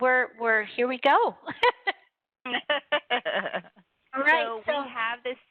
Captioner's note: laughter